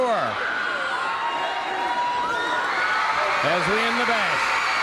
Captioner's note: crowd cheering